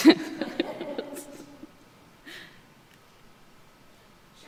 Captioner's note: laughs